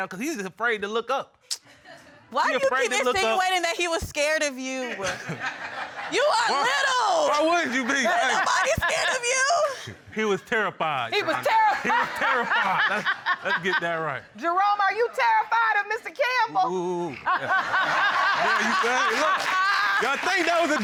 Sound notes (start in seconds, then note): 1.5 clicks tongue; 4.9 audience chuckles; 8.2 laughs; 11.2 laughing; 17.2 all laughing